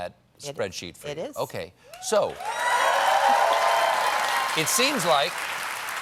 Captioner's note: cheers and applause